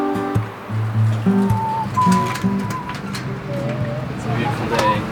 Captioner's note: whistling